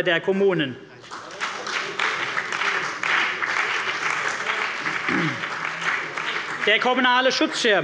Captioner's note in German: Beifall bei der CDU und dem BÜNDNIS 90/DIE GRÜNEN